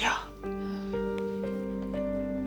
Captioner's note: sighs